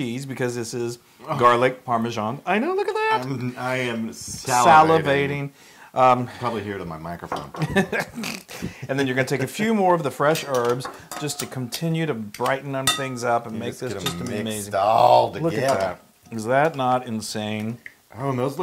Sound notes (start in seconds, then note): 7.6 laugh